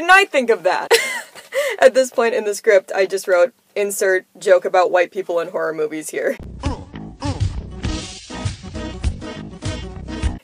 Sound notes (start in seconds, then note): 1.0 laughing; 6.4 funky Music